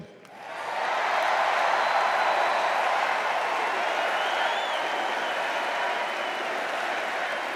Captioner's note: extended cheers and applause